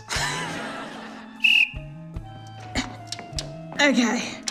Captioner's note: laughs; blows whistle